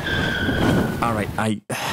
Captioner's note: tyres screeching; sigh